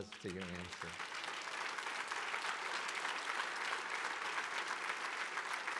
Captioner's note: audience clapping